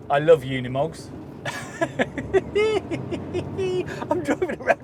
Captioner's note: he giggles